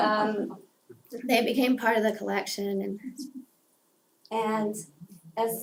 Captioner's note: laugh